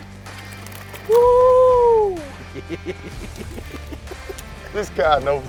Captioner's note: laughing